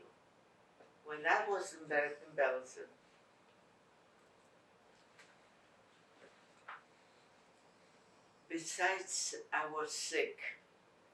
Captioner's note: pauses 6 seconds